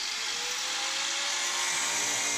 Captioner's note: machine noise